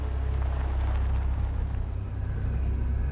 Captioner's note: aircraft noise